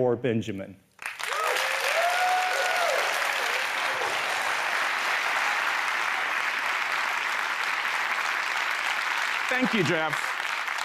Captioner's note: applause